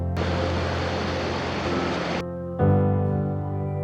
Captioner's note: rushing water